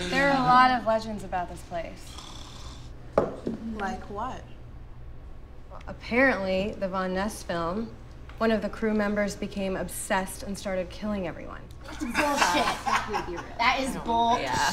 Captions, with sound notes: - There are a lot of legends about this place. - Like what? - Well, apparently the Von Ness film, one of the crew members became obsessed and started killing everyone. - That's bullshit. (Felix laughing) That is bullshit.